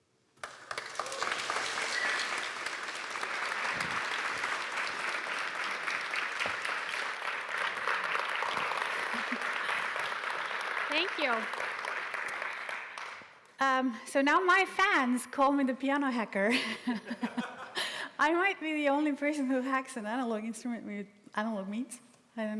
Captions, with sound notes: (Applause) Thank you. (Applause) Erm, so now my fans call me the piano hacker. (Laughter) I might be the only person who hacks an analog instrument with analog means. I don't know.